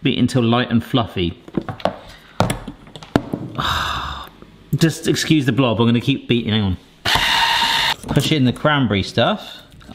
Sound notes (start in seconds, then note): 3.6 groaning